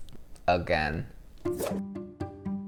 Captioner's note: inquisitive music; whoosh